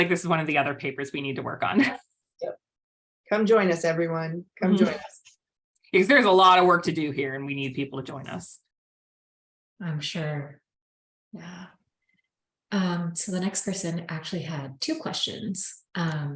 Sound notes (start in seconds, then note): 4.7 laughter